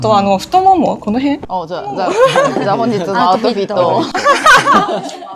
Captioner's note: laughs